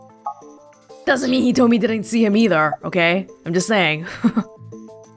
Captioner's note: chuckles